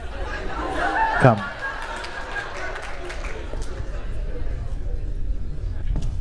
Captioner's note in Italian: Applausi e risate; Risate